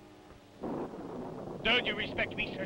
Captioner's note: thunder rumbling